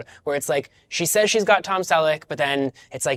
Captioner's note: none